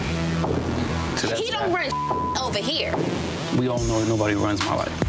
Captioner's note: beep